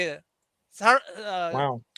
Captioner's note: non-english speech